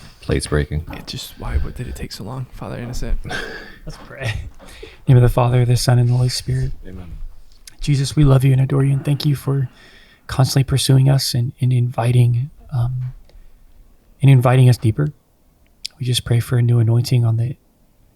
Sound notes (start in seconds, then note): 2.9 chuckles